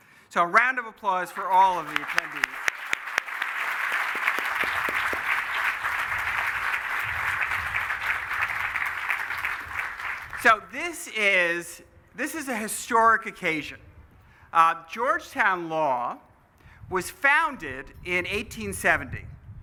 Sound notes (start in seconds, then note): 2.7 applause